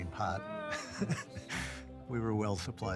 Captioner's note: chuckles